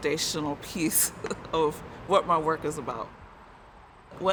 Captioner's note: laughing